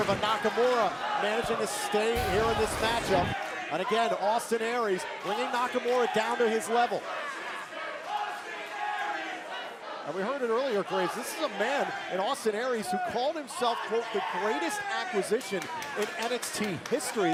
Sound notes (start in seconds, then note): 9.9 crowd cheering